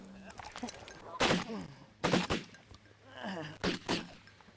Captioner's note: more gunshots